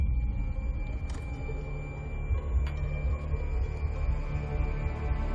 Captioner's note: ominous music; heart beat thumping loudly